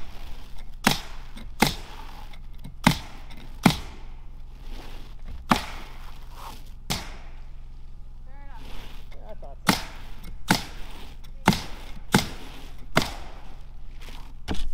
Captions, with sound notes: (gunshots) - Fair enough. - Yeah, I thought that.